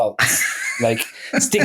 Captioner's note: laughing